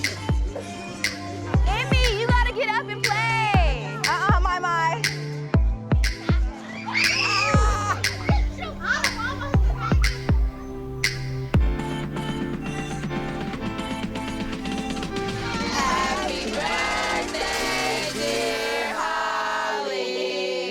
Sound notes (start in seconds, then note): 0.0 fast upbeat music; 6.6 kids screaming; 11.9 fast upbeat music